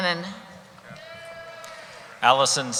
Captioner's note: cheering